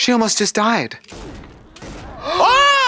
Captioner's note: guns shots